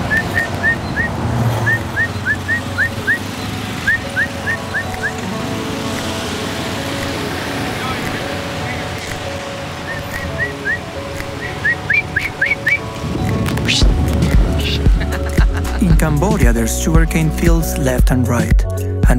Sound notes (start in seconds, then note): 0.1 whistling; 11.2 whistling; 14.5 chuckling